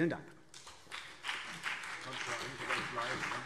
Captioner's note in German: Beifall CDU und BÜNDNIS 90/DIE GRÜNEN